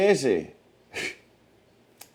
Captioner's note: laughing